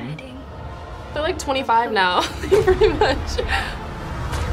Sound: laughs

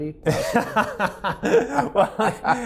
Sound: laughing

